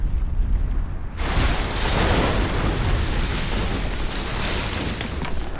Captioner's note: glass shattering